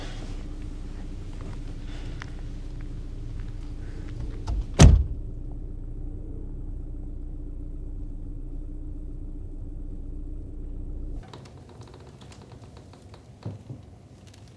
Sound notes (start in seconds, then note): 4.2 car running